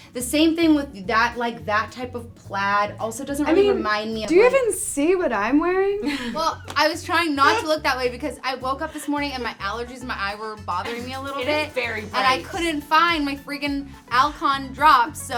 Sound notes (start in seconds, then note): 7.4 laughs